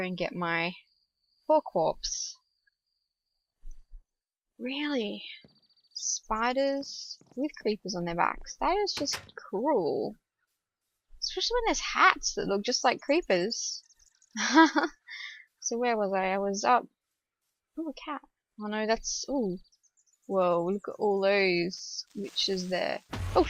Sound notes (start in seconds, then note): 14.4 laughs